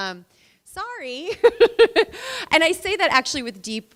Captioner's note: laughing